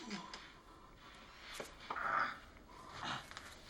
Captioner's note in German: Grunzen